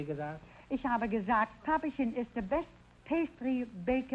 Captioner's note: Groucho speaking German; speaking German